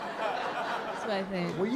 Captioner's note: laughter